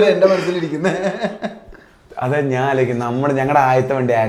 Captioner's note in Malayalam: പൊട്ടിച്ചിരി